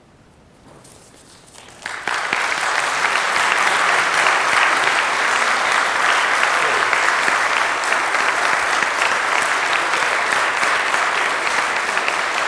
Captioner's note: applause